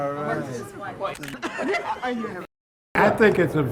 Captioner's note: giggling